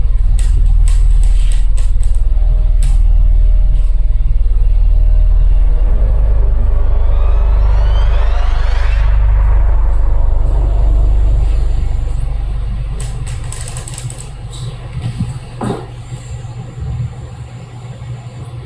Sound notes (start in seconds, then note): 0.3 wood creaking; 6.4 violins screeching; 12.9 wood creaking; 15.6 wood tapping